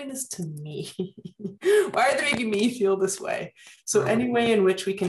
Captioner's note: laughter